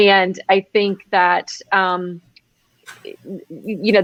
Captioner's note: laughs